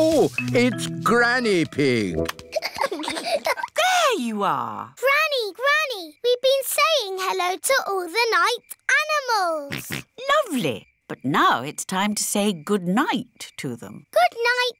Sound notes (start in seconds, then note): 2.4 peppa and george giggling; 9.7 snorts